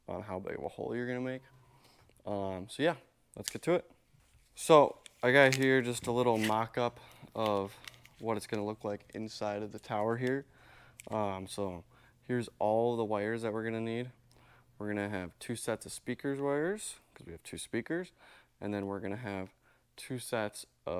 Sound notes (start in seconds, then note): 5.1 wires zipping